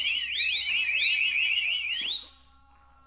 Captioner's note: whistle